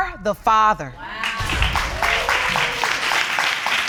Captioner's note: audience exclaiming and clapping